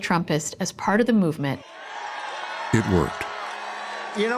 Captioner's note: audience cheering